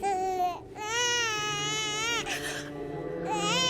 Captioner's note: crying; gasps